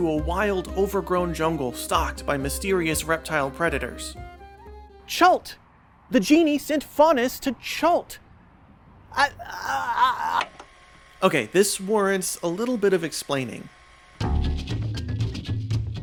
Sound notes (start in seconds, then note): 8.9 frenzied jabbering